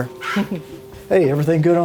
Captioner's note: mother chuckles